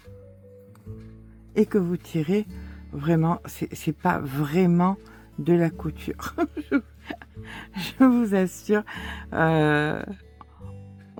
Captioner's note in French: rires